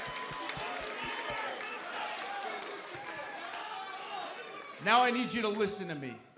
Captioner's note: cheers and boos